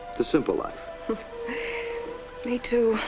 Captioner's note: chuckle